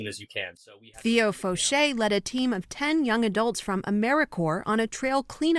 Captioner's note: voice-over